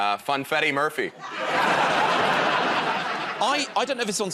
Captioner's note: laughter